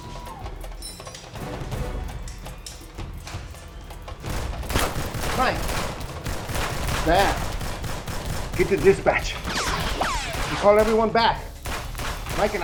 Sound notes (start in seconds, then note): 5.1 gun firing